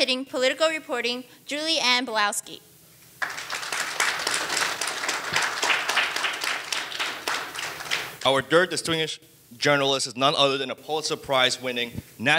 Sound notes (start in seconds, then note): 3.2 audience applauding